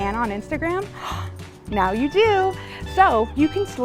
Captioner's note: gasping